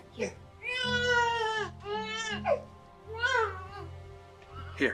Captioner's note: baby cries